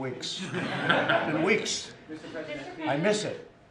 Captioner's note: laughter